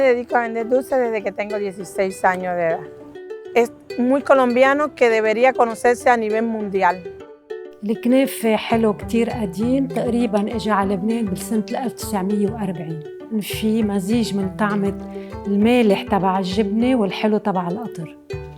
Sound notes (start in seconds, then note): 0.1 speaking in foreign language; 7.9 speaking in foreign language